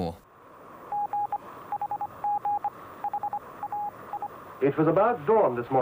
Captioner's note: morse code beeps